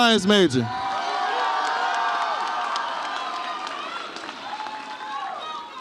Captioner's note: audience applauds and cheers